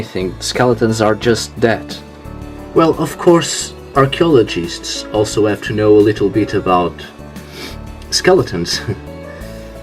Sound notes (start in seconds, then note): 7.4 sniffs; 8.7 giggles